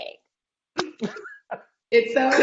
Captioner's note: laughing